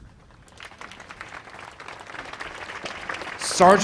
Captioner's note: audience applauds